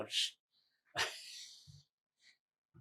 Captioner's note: laughing